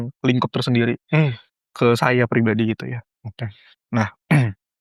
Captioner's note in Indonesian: berdehem